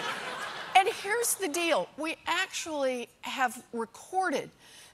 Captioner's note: laughter